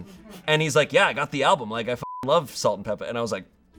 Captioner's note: beep